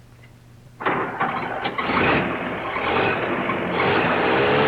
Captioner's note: engine rumbles